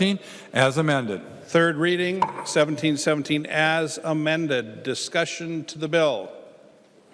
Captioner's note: gavel